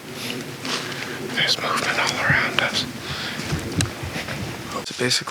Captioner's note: whispers